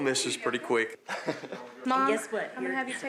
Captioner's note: laughs